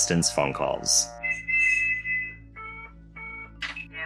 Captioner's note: phone beeps; whistle